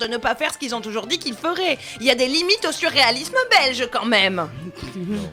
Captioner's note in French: rires